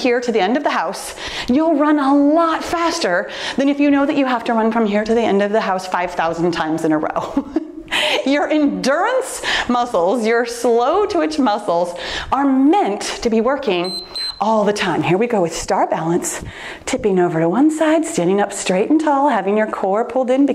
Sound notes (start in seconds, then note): 13.8 timer beeps